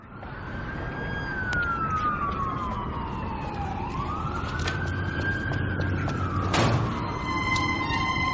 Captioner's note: police siren; epic music starting